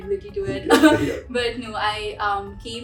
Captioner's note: laughs